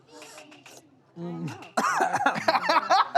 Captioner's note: coughs; laughs